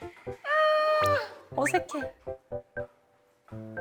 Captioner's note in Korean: 으음